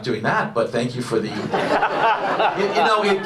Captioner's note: audience laughs